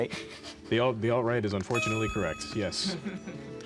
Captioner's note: laughing